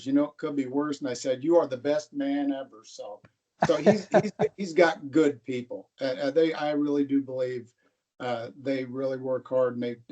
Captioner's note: laughter